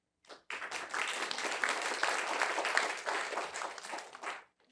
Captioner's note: applause